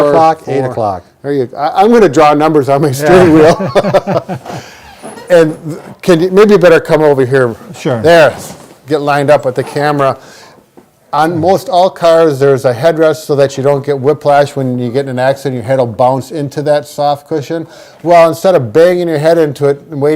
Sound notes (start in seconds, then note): 3.0 laughs; 3.1 both laughing